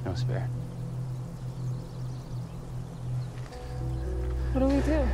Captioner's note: birds singing; tense music